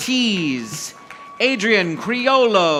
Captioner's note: audience applauding